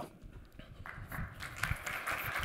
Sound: applause

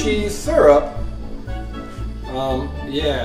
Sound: voiceover

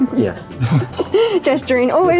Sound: both laughing

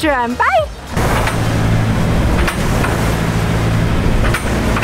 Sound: engine whirring

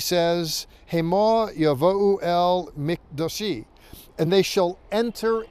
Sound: speaking in Hebrew

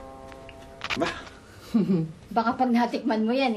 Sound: chuckles

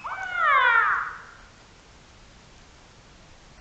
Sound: whales singing

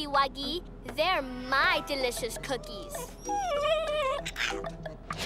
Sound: whimpers

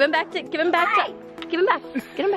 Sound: screams

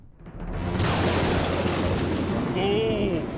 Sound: thundering

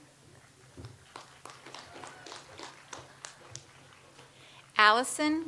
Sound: audience applauds

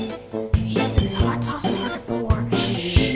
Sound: upbeat music; whispering

